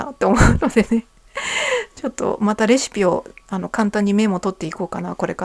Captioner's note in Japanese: 笑い; 息をのむ音